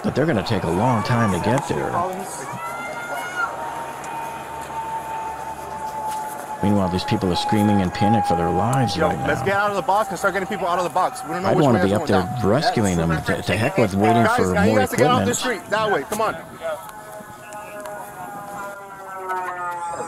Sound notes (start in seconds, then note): 2.6 hollering; 2.6 sirens wailing; 17.7 sirens wailing